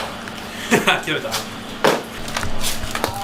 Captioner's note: laugh